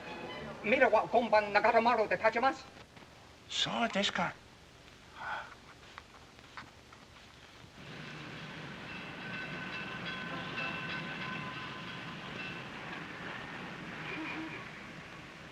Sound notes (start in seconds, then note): 0.0 soft music; 0.3 speaking in Japanese; 4.8 city street sounds